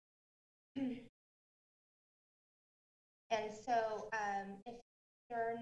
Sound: clears throat

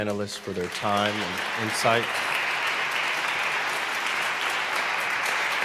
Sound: audience applauding

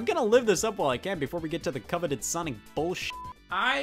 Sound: beep

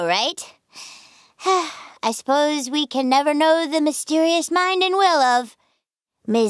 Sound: sigh

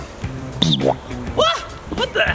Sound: cartoon drooping noise

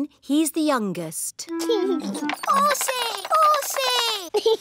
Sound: giggles

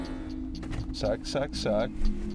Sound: door closes

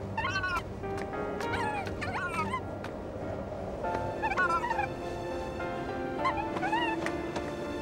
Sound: Aster murmuring

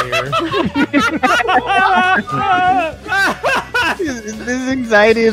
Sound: laughter

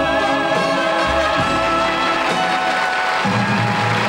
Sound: audience applauding

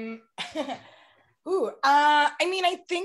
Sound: chuckles

